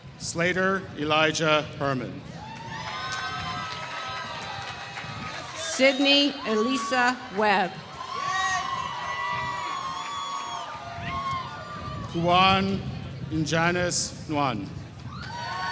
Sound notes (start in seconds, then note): 2.4 applause; 7.9 applause; 15.1 applause